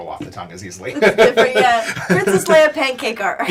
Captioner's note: laughs